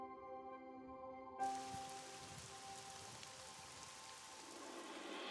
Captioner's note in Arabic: هطول المطر